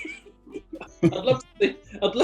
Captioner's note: laughing